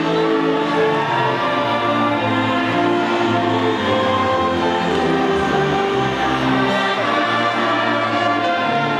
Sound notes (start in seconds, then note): 2.7 audience faintly shouting